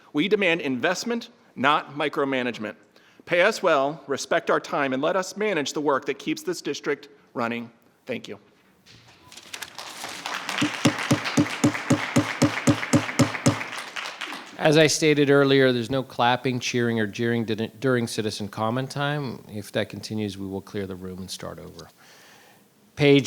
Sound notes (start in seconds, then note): 10.6 gavel bangs; 10.8 audience applauding